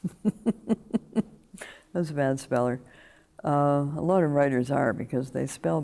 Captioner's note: laughter